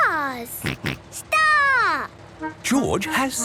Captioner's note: snort